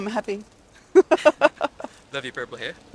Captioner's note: laughs